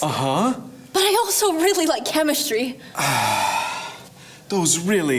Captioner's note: sighs